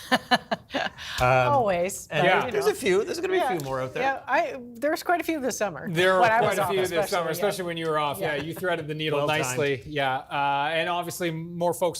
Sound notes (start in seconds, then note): 6.2 laughter